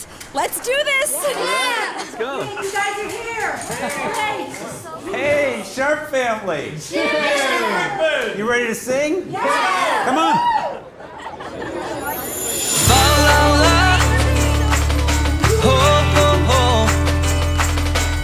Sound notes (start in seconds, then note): 0.7 family cheering; 9.3 cheering; 11.0 girl laughing